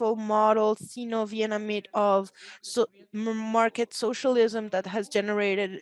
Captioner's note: speaks Spanish